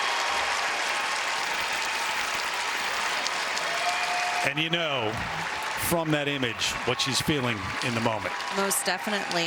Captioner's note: cheers and applause